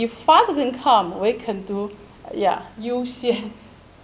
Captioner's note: speaking in foreign language